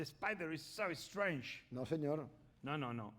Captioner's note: speaking spanish